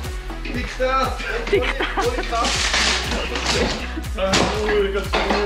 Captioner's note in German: lacht